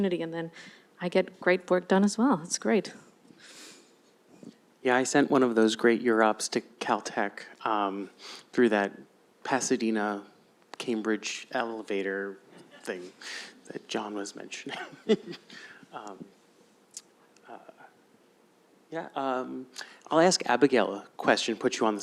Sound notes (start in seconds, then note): 14.7 laughs